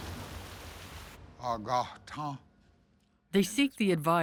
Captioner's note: speaking Cherokee